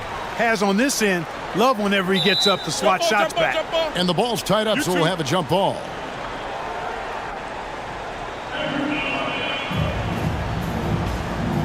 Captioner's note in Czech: Potlesk